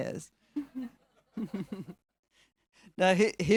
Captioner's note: all chuckling